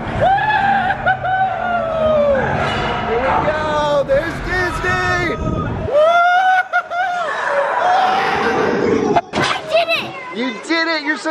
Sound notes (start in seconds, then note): 0.2 cheering; 5.8 cheering